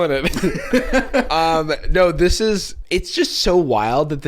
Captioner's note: laughing